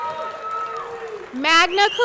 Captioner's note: audience cheering; audience clapping